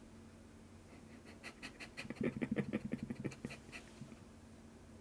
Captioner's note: laughter